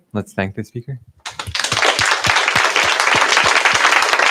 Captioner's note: applause